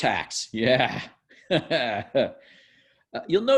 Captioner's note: laughs